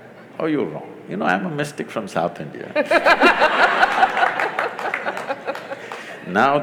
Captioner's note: laughter/Applause